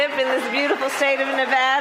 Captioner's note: applause